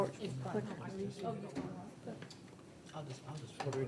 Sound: people chattering

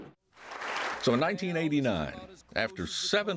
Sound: voiceover

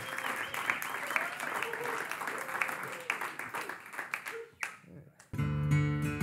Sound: applause; guitar Warms Up

